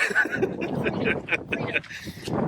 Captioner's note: laughing